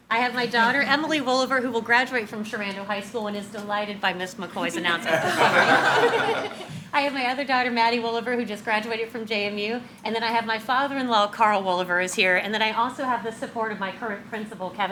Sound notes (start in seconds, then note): 4.9 all laugh